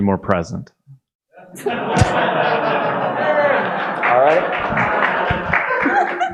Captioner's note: audience laughing and applauding